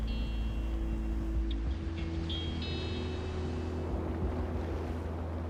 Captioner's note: waves breaking